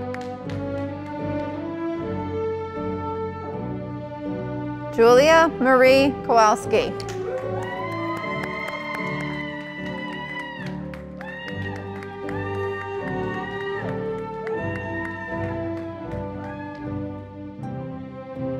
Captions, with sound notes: Julia Marie Kowalski, (audience applauding)